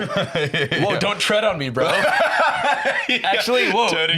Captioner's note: laughing